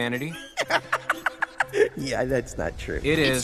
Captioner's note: Olaf laughs